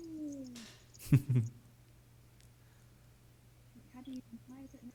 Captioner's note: chuckling